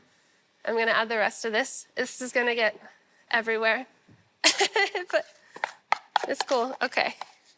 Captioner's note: laughs